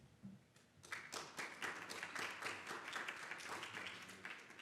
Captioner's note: audience clapping